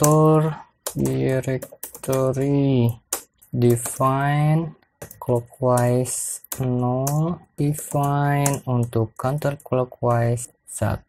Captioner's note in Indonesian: typing code